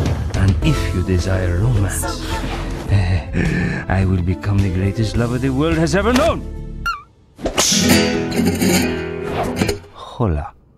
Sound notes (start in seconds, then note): 2.8 breathes